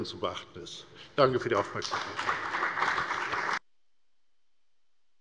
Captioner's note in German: Beifall bei der FDP und bei Abgeordneten der CDU